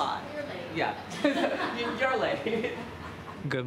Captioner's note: both laughing